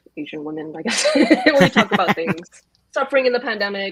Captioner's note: laugh